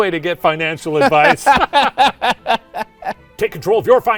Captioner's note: laughs